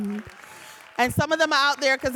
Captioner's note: audience applauding